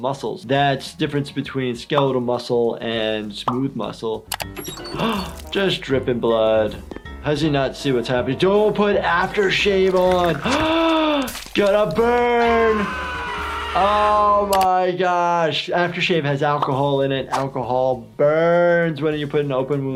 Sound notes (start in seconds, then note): 4.9 gasps; 9.3 gasps; 12.3 Lumpy screaming